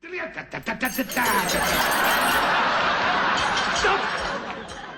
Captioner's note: audience laughter effect